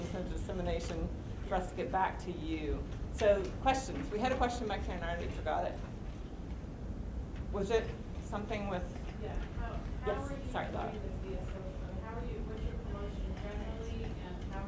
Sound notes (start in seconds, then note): 9.5 voiceover; 11.6 voiceover